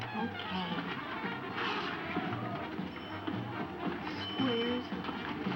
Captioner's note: uptempo jazz music continues; pinball machine dinging